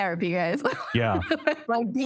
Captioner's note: laughter